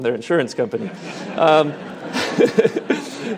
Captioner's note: audience laughing; speaker laughing